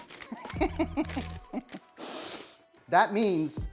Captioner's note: laughs